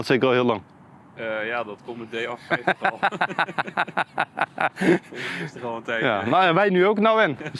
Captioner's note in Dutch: gelach